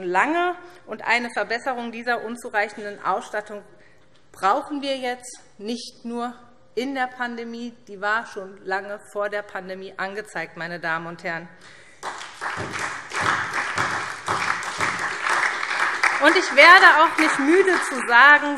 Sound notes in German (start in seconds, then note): 11.9 Beifall